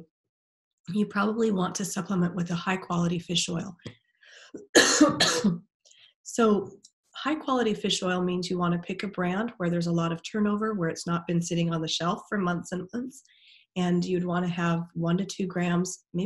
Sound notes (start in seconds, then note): 4.6 coughing